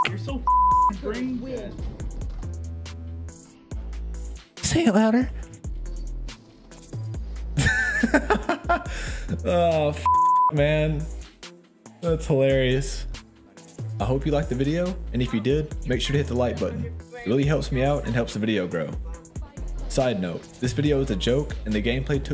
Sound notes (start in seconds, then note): 7.6 amused laughing